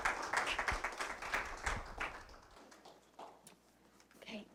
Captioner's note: applause